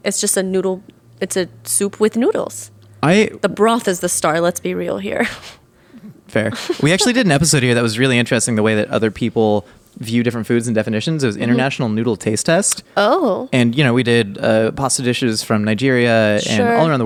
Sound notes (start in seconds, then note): 6.0 laughing